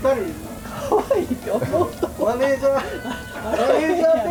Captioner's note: laughs